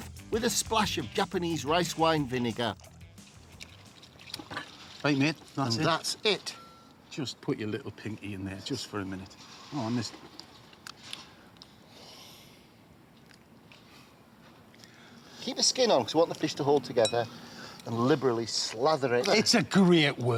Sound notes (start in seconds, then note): 12.7 sighs